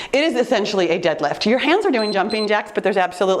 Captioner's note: timer beeps